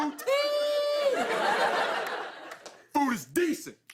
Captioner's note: laughter